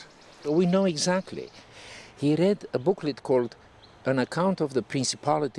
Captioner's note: none